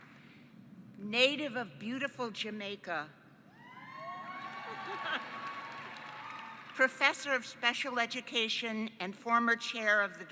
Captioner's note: cheering